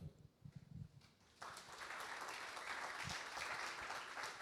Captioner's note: audience applauding